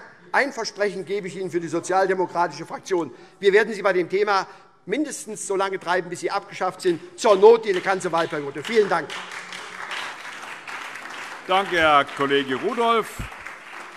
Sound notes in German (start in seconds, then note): 9.6 Beifall SPD und vereinzelt DIE LINKE